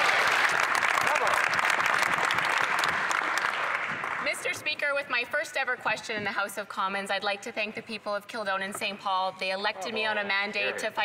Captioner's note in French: voix de l'interprète